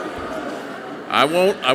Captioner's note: audience laughing softly